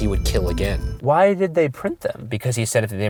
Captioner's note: voiceover